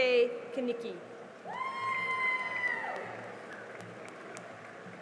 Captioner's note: cheering and applause